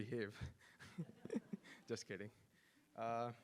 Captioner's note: laughs